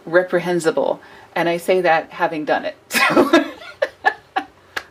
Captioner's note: laughs